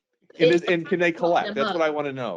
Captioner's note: group chattering